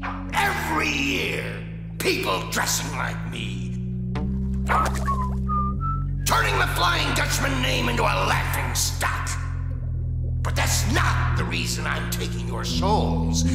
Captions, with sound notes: Every year, people dressing like me. [whistling] Turning the Flying Dutchman name into a laughingstock. But that's not the reason I'm taking your souls.